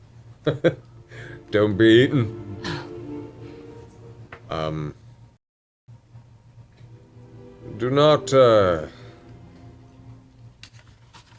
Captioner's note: laughs